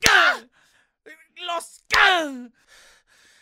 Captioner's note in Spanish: seguido de bofetada